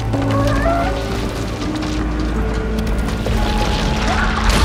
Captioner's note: crumbling and creaking